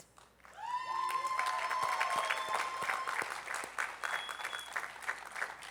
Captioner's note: attendees applauding